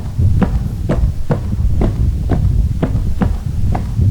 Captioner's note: footsteps